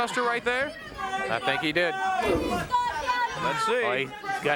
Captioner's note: Bill bellowing